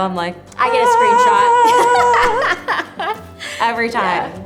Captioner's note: laughs